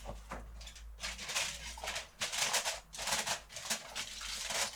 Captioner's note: foil rustling